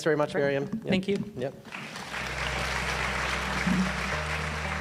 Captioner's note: group applauding